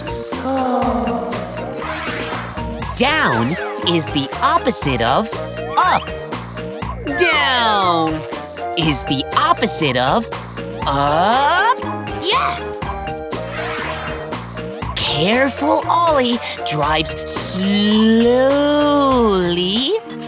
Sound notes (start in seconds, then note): 0.0 sighing